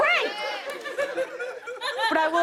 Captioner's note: laughter